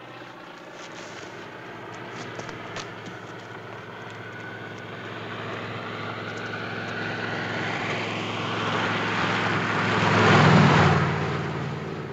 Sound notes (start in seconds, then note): 7.8 car engine accelerating